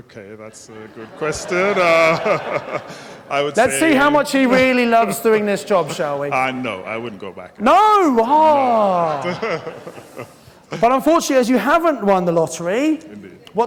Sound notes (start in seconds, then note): 0.9 laughing